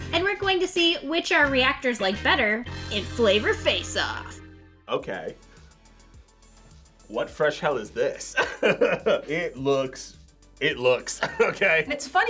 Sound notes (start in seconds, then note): 8.4 laughs